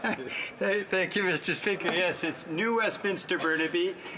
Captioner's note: some Laughter